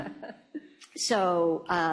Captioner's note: laughter